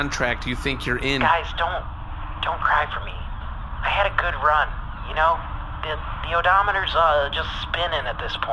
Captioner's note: quietly